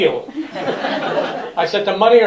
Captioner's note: laughter